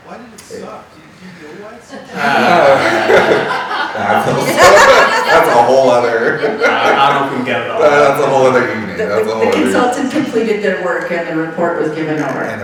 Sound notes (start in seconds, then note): 2.0 all laughing; 6.5 laughing